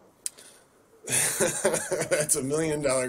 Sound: chuckles

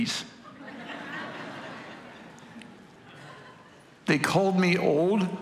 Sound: congregation laughing

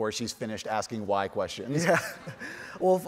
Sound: chuckles

